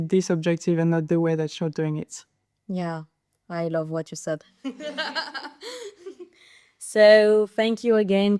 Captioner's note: laughes